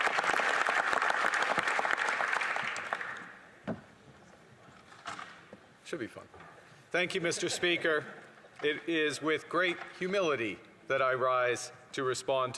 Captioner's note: applause